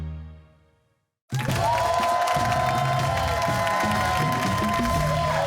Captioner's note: cheers and applause